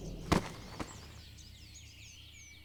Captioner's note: ant thuds